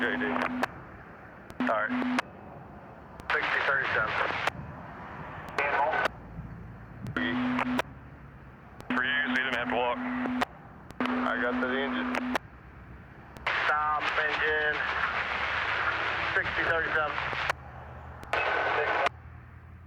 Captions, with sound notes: (radio chatter) - Shane, you're doing good. All right. - 60, 37. (radio chatter) - For you, you're leaving me to have to walk. I got to the engine. - Stop, engine.